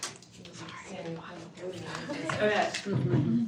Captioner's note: attendants chattering